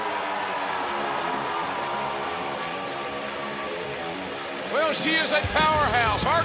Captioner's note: cheers and applause